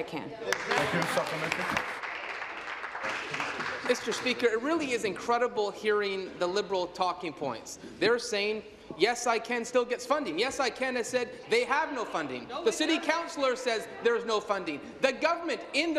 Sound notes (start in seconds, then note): 3.4 applause